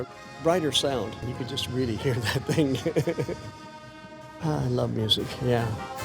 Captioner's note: laughs